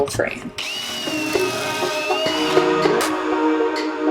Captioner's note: drill whirring; upbeat music